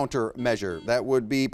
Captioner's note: buzzer beeps